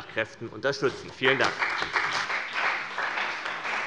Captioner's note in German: Beifall bei dem BÜNDNIS 90/DIE GRÜNEN und der CDU